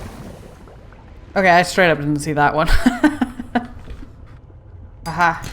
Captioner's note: laughs